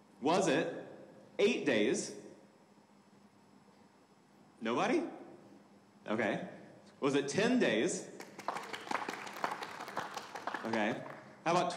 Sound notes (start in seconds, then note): 8.2 audience applauding